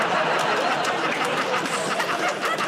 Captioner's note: laughter